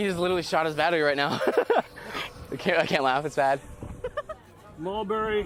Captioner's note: laughing